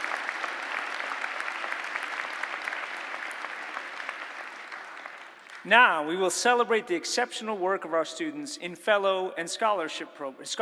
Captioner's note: applause